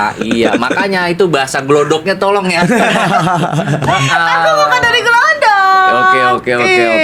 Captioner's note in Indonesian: tertawa